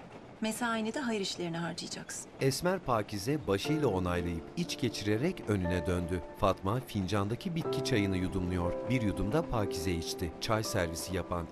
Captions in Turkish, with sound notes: Mesaini de hayır işlerine harcayacaksın. (Müzik - Duygusal) (Tren sesi)